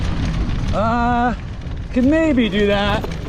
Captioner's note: grunting